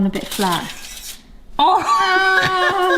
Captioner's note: foil crinkles; laughs